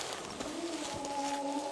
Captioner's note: wailing